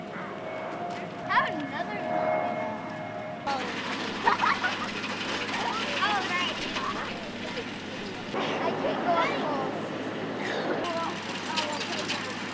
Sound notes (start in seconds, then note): 4.1 laughing